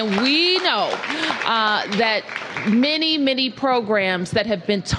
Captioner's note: applause